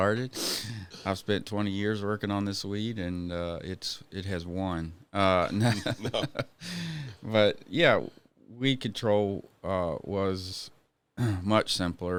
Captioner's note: laughing